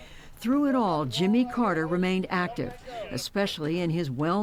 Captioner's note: voice-over